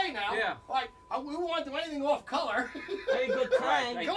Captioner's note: laughs